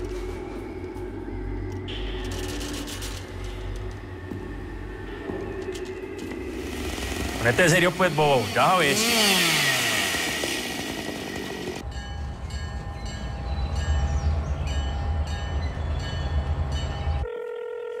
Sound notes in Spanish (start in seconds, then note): 9.0 Sonido de la podadora; 11.7 Tañidos; 17.2 Suena el teléfono